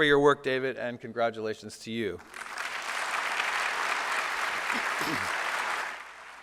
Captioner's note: applause